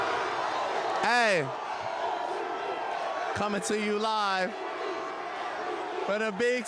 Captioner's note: yelling; cheering